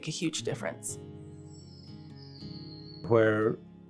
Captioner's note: acoustic guitar; birds chirping